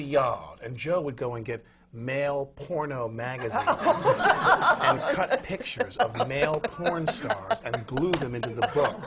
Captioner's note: laughter